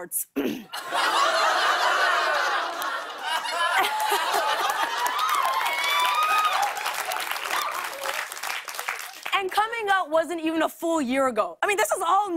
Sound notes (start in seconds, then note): 0.7 laughter; 4.4 cheers and applause